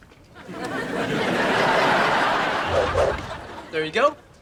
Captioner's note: audience laughs